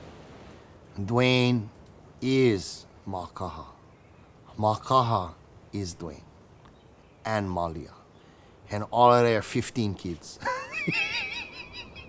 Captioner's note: laughs